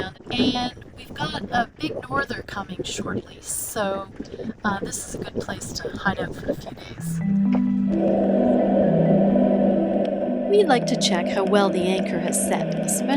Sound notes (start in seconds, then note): 7.1 gentle music; 8.0 air tank hissing